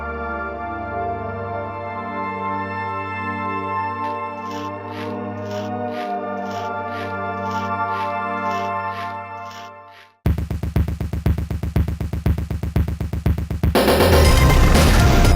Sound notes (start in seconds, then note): 4.0 rhythmic brushing